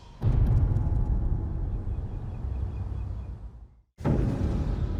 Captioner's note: birds chirping